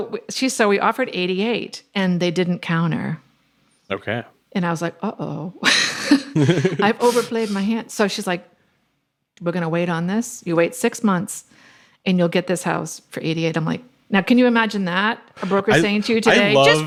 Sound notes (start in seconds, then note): 5.8 laughs